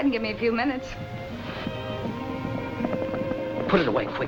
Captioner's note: hooves approaching